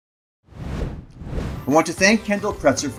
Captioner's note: graphic whooshes